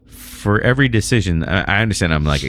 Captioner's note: uh